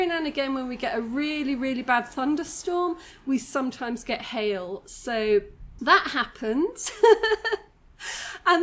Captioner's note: laughing